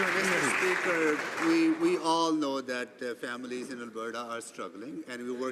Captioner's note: some Applause